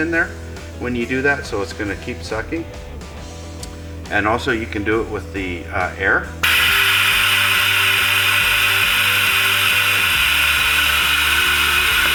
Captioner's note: compressed air noise